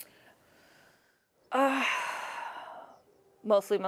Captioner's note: sighs